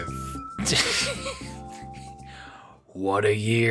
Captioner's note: the fading laughter of a nearly-defeated man